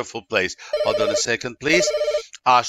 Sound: phone rings

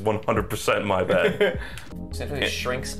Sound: laughs

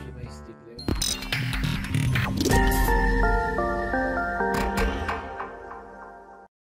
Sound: sound effects

